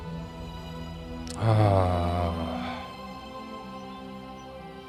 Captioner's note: sigh